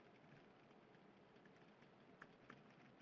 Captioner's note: typing